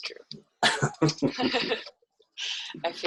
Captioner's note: chuckles